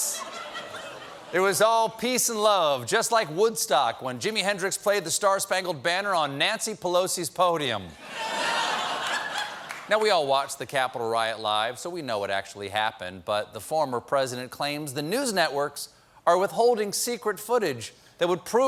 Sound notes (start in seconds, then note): 10.6 laughter